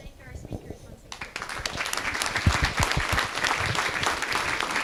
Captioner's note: audience clapping